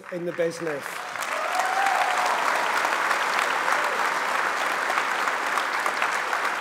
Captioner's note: applause